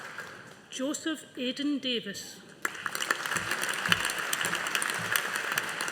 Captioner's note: audience applauding